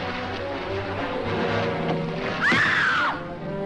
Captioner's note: screams; thud